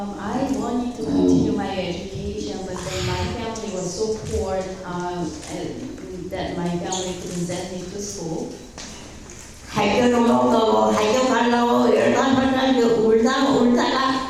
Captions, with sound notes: I wanted to continue my education, but then my family was so poor that my family couldn't send me to school. (speaking in foreign language)